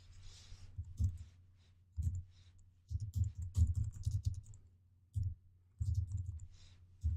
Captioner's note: typing